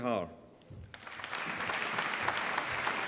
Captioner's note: applause